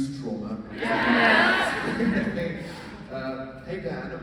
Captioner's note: laughs